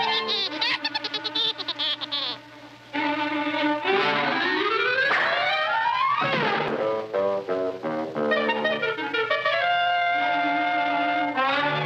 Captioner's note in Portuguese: risos